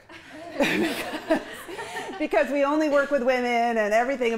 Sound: chuckles; chuckling

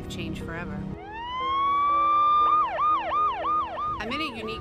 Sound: sirens blaring

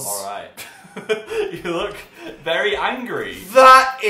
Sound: laughs

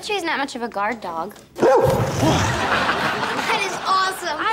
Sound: barks

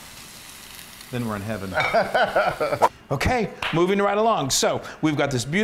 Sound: laugh

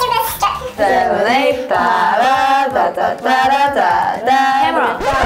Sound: humming a song

